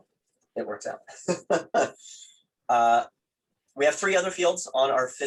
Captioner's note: laughs